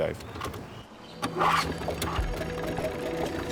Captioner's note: engine starts